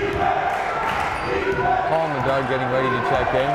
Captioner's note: chanting; clapping